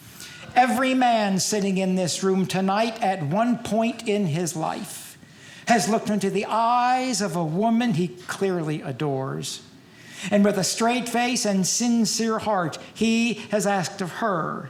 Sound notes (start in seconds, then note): none